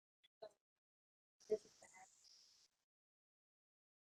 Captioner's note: woman murmurs lowly